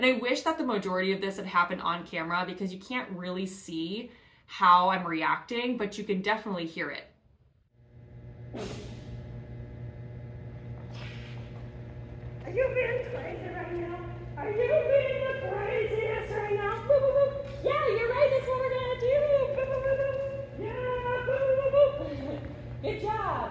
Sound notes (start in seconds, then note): 8.5 Forest sneezes